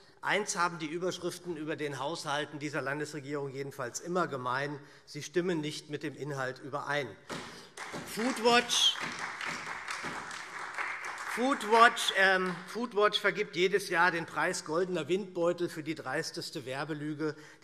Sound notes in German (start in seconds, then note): 7.2 Beifall SPD